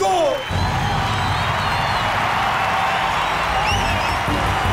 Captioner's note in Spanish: Aplausos